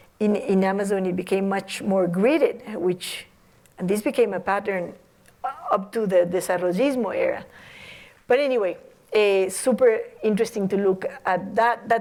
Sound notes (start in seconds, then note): 6.7 non-english